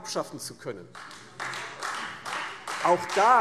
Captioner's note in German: Beifall Freie Demokraten